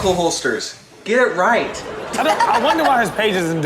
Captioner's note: Chanel laughs